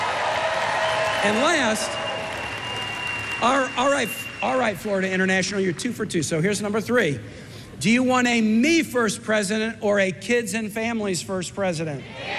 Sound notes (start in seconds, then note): 5.2 cheers and applause